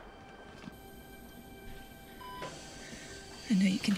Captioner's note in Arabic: يستمر ضخ الأكسجين